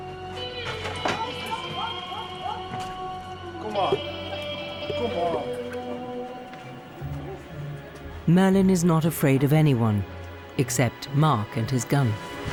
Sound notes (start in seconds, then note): 1.1 dog barking; 1.1 dramatic music